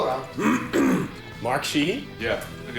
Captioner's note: clears throat